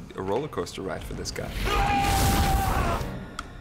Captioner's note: yelling